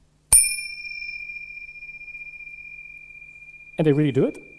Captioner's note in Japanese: ベルを鳴らす音